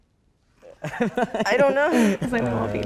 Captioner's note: laughing